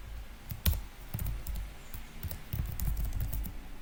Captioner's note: typing noise